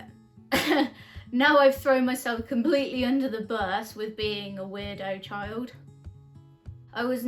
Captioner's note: laughs